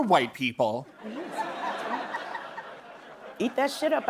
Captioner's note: laughter